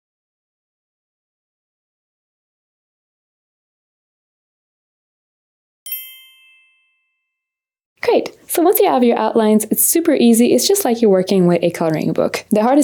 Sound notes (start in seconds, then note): 5.8 bells chiming